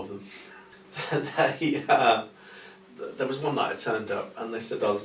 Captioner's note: chuckles